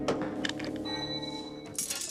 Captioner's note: bel pintu berbunyi